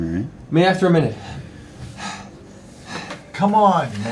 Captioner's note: heavy breathing